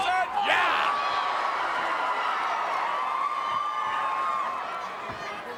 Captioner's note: crowd cheering